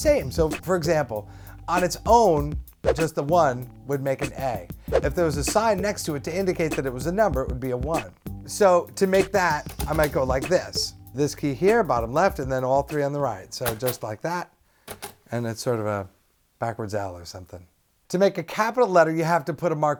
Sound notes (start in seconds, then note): none